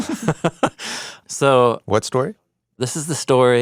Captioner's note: laughs